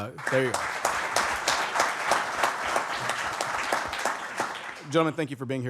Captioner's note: applause